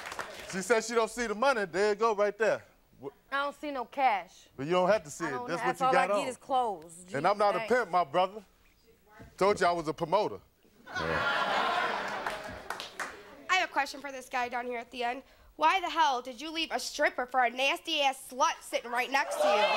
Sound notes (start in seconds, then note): 10.8 audience laughing; 19.2 audience cheering